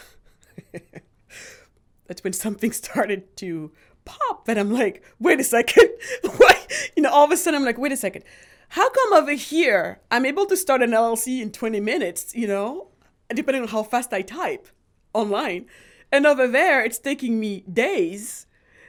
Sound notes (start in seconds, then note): 0.0 laughs; 5.8 laughs